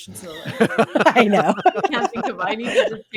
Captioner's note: all laughing